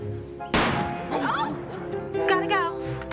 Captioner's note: gunshot